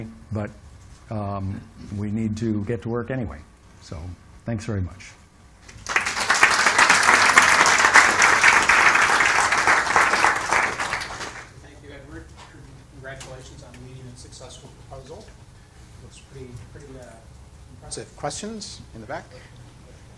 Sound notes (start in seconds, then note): 5.7 applause